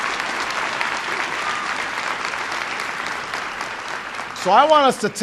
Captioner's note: applause